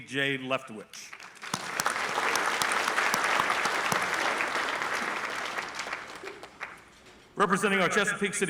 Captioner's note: applause